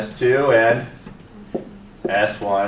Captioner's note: students murmuring answers